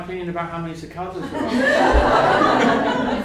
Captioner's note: laughter